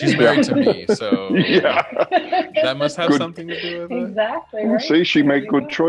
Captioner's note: laughs